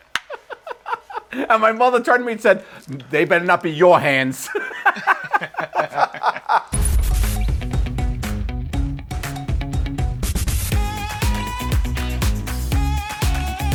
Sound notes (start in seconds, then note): 0.2 laughter; 4.4 laughter; 6.8 upbeat music